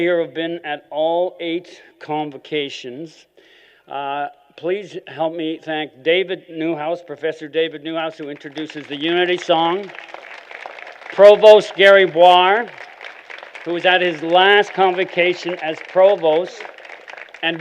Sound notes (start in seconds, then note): 10.0 applause